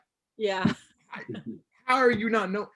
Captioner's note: laughs